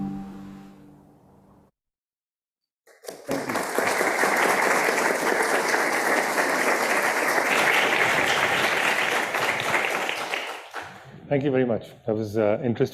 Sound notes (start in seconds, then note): 2.9 audience applauding